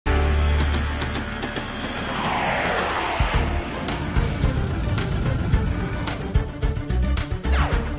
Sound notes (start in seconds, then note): 1.1 space sounds; 4.9 dramatic music